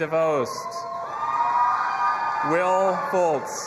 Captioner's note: audience applauding and cheering